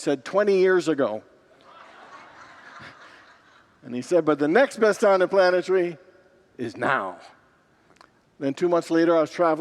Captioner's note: congregants laugh